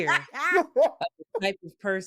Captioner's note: laughing